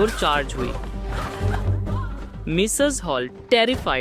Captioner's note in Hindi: चीखने की आवाज़